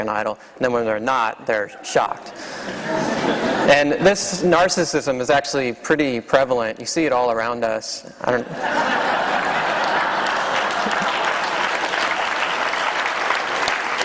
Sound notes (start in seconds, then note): 8.3 laughter; 9.3 applause